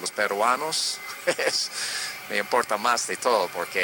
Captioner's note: laughter